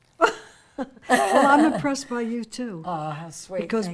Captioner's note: laughs